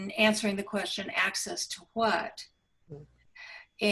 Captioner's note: none